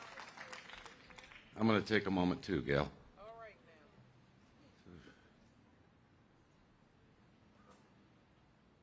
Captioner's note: cheers and applause